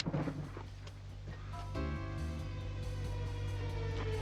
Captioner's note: gun clicks; mellow music